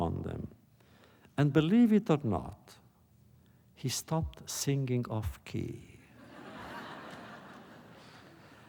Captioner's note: laughter